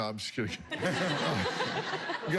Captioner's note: laughter